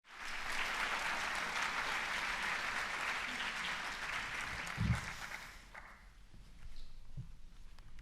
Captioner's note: applause